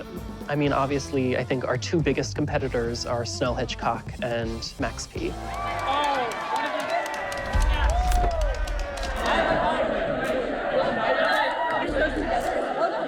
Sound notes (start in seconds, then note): 5.2 applauds; 5.9 crowd clamoring